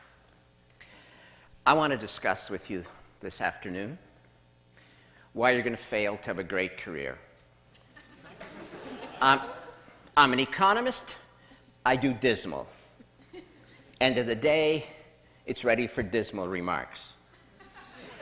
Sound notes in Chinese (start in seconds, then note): 7.7 笑聲